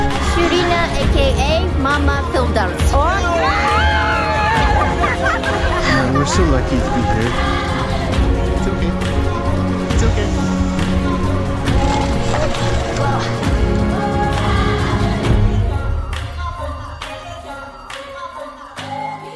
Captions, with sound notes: Ashlina AKA Mama Fildouse. Okay! (all cheering) - We're so lucky to be here. It's okay. It's okay. - Oh my God.